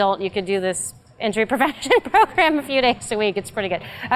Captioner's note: laugh